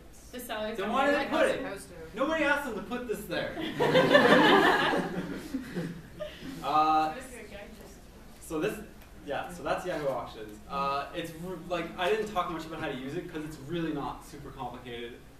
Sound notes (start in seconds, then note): 3.6 laughs